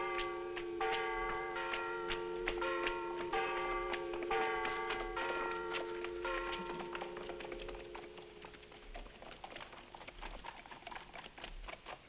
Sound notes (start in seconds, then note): 0.0 bell clanging; 0.0 footsteps rustling; 8.2 hooves clattering